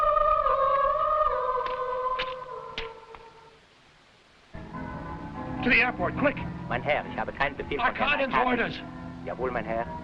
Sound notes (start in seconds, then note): 7.2 driver speaking foreign language